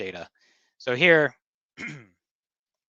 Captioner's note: clears throat